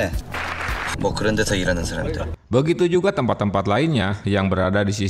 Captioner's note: applause